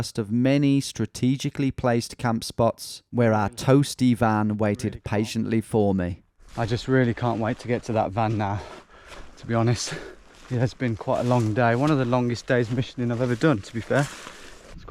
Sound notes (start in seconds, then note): none